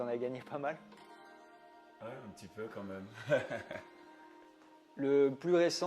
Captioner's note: laughts